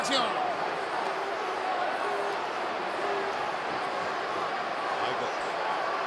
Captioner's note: applause